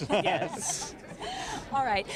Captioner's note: laughing